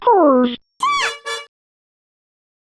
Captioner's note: beep beep